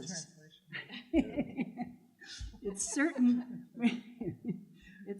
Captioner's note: laughter